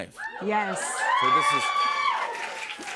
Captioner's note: cheers and applause